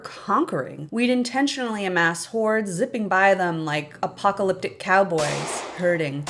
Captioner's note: bang